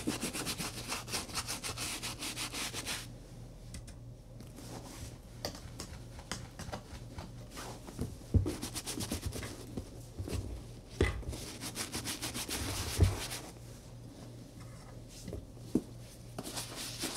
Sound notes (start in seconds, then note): 3.8 brush tapping; 8.6 brush resumes scrubbing